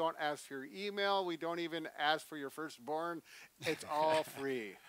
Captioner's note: laughs